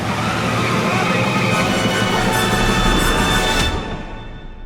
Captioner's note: screaming; groans; mysterious music ends